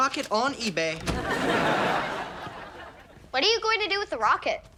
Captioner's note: audience laughs